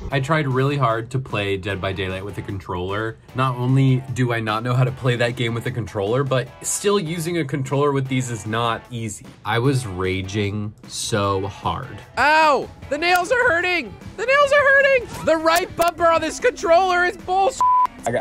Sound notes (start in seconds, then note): 12.4 yelling; 17.6 beep